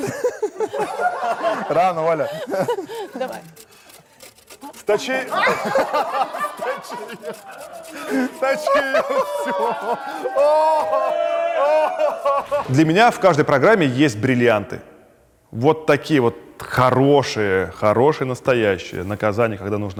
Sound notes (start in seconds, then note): 0.0 all laugh; 0.0 laughs; 6.3 all laugh